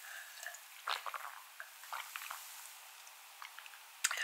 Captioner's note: slurp